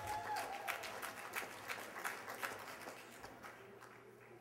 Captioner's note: applause